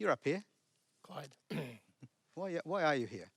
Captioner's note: clears throat